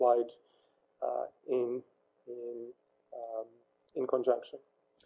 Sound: pause

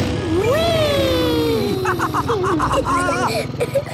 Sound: laughs

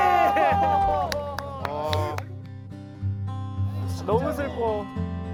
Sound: bursts into tears

